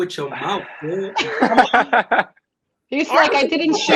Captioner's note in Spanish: todos se ríen